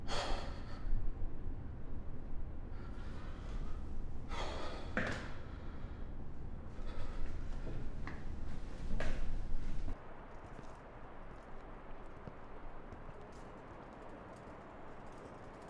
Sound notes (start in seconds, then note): 0.2 Jack sighing; 9.1 air whooshing